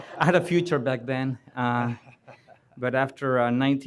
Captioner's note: laughter